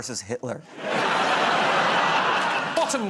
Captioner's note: laughter